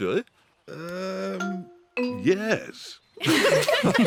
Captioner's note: all giggle